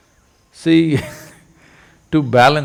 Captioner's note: laughs